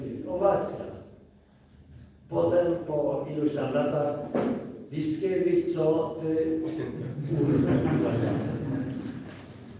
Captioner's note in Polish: śmiech z sali